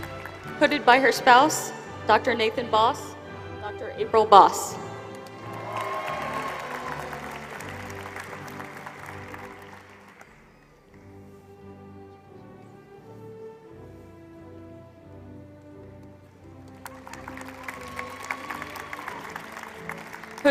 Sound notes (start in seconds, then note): 5.0 applause